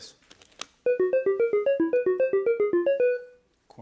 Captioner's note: beeping